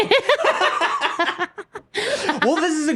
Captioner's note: laughing